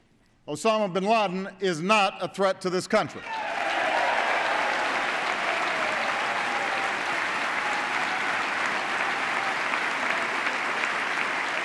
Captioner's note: applause